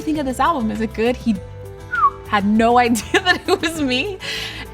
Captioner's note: whistles; laughs